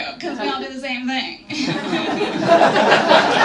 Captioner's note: annoying snarky laugh